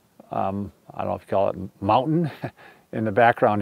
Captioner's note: chuckles